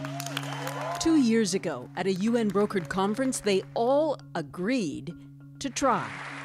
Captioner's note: cheers and Applause